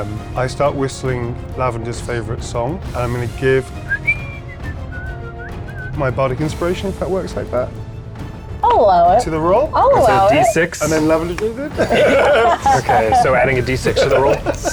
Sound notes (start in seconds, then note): 3.7 whistles a melody; 10.8 players laughing